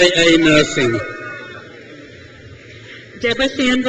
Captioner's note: crowd cheers